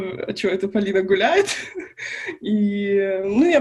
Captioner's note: laughs